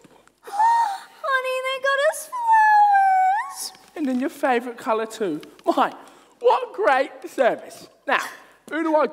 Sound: gasp

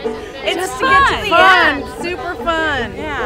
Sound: laughter

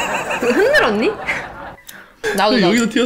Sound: laughs

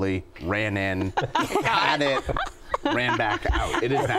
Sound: laughter

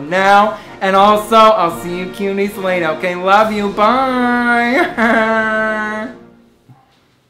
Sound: laughing

